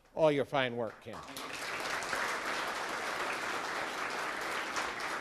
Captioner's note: audience applauds